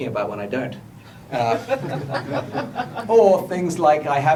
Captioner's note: laughter